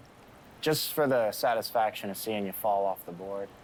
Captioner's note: none